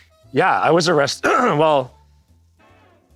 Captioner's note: clears throat